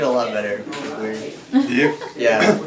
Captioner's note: laughter